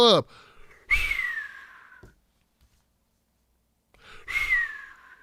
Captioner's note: descending whistles